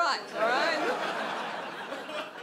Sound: audience laughs

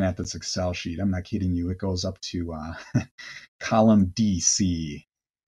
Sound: chuckles

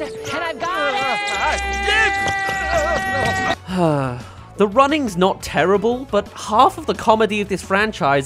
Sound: sigh

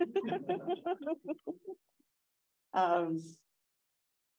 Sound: gentle chuckling

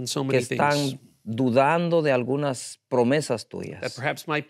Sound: speaking in Spanish

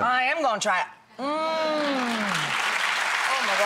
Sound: pleasurable moans; audience clapping

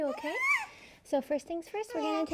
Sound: baby squeals

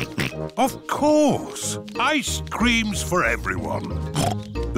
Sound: snorts

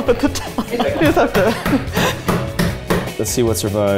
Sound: laughing; hand slapping

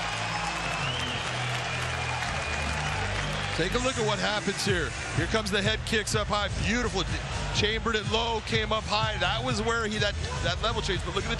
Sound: cheers and applause

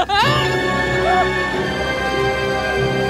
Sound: screams

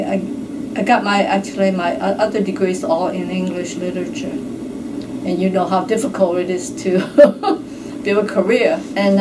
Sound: giggles

